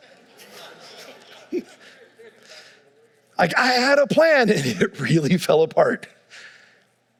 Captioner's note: audience laughing